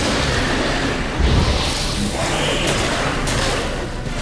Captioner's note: hounds hiss; flames whoosh